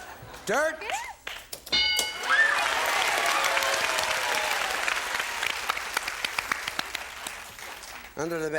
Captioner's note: bell; applause